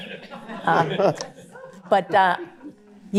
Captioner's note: laughter